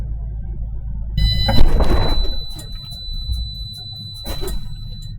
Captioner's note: high pitch beeping